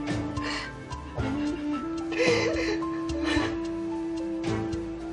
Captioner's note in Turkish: Ağlama sesi gelir